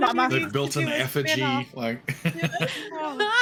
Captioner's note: all laughing; laughing